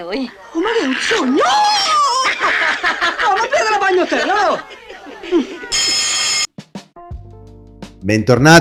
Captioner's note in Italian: risate; risate